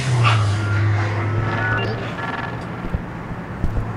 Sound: app pings

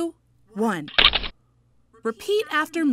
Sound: shutters click

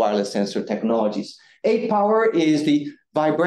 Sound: none

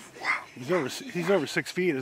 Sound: chuckling

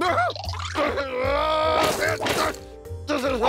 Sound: angry grunting

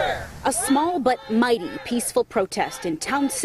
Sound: shouting

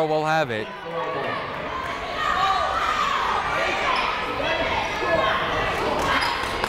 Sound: people shouting in the crowd

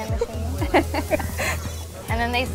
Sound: laughter

